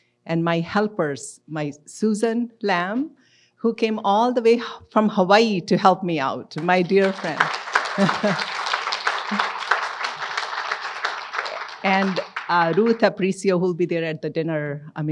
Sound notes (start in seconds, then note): 6.6 audience applauds; 7.7 laughs